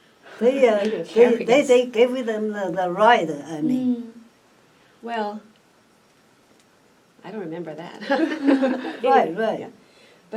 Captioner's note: all laugh